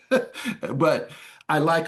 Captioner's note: laughs